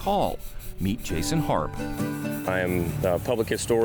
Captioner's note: stone scratching